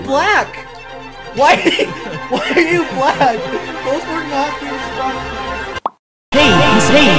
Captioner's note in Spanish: entre risas